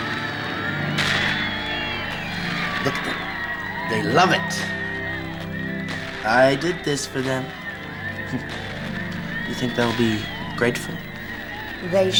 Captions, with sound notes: (cheering) - Look at them, they love it. I did this for them. You think they'll be grateful?